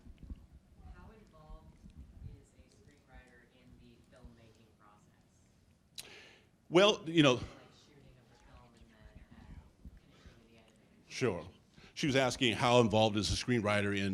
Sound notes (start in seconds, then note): 2.0 woman speaking off-mic